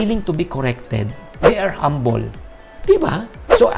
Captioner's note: swoosh